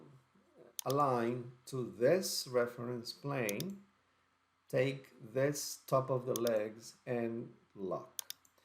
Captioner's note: click